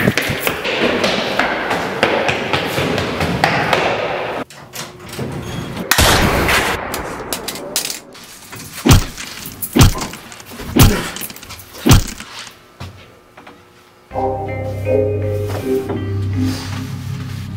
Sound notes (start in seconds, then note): 0.0 running footsteps; 4.5 door opens; 5.9 gunshot; 8.5 hammering sounds